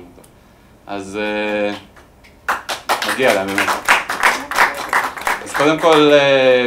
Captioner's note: applause